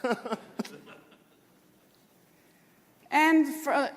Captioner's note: laughter